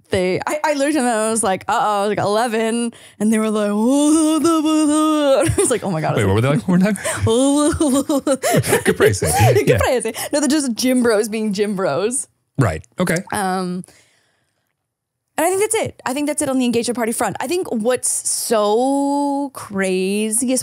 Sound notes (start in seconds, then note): 3.9 imitating gibberish; 7.7 imitating gibberish